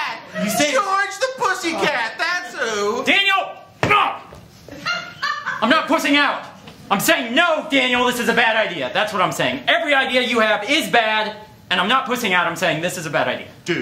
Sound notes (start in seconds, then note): 3.7 stomps